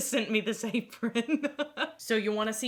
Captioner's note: laughing